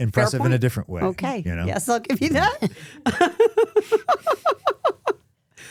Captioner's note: laughing